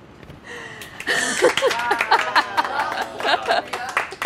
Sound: people clap

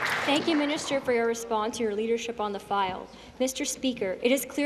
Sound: applause

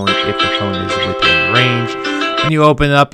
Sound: wallet beeps; phone rings

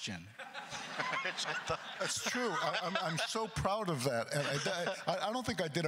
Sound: laughs

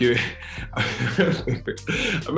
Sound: laughing

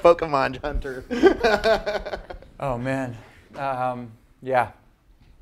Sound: laugh

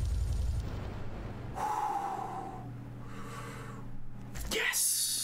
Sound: sigh of relief

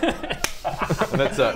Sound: judgemental laughter

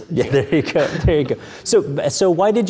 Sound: laughing

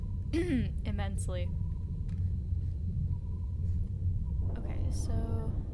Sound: clears throat

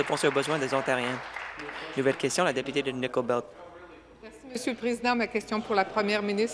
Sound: applause

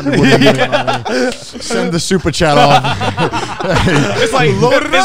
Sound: group chattering

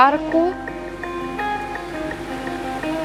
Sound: raindrops falling

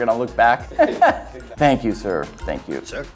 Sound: man laughs

